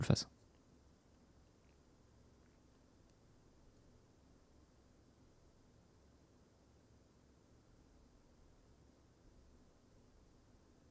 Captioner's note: annoying silence